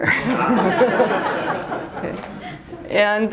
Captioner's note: laughter